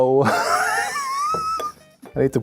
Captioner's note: laughs